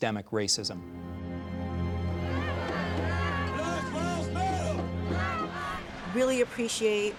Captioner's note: slow orchestral music; overlapping chattering